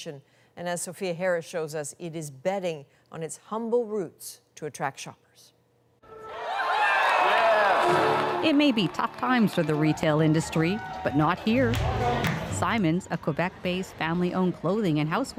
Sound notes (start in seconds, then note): 9.8 cheers and Applause